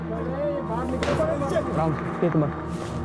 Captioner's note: gunshots